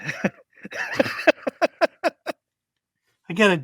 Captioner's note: laughs